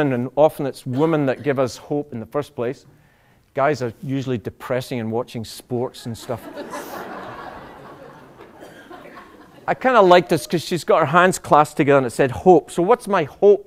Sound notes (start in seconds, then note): 6.1 laughter